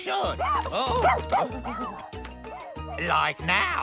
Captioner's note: barking Wildly